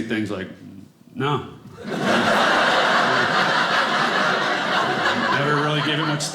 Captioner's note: audience laughing